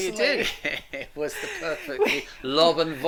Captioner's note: laughing